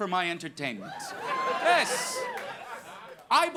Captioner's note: audience laughing